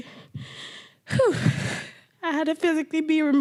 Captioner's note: crying